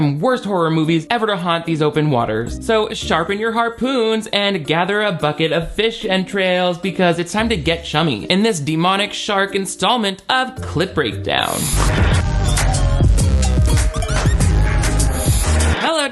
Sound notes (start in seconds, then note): 11.7 whizzing; 13.7 upbeat instrumental music